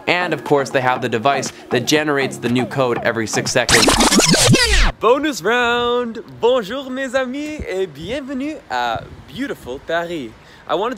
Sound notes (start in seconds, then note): 3.3 record spinning; 5.6 speaking in a foreign language